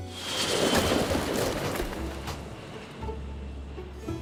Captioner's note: whoosh